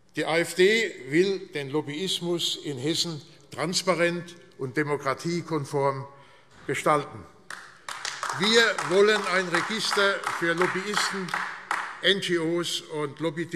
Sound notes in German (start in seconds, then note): 7.4 Beifall AfD